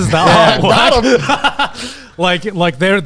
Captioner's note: group laughs